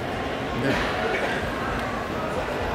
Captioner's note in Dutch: gekuch